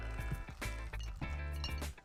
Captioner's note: tacos crunching; upbeat music playing